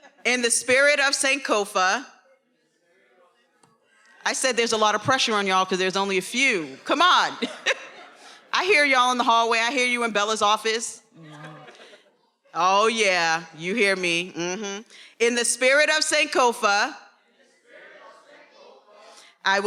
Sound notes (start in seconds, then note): 7.3 everyone laughing; 11.2 attendees laughing